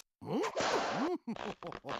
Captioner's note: laughing